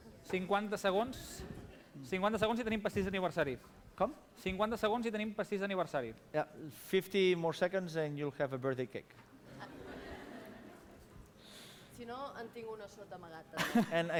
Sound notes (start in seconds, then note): 2.7 non-english speech; 9.4 laughter; 12.5 non-english speech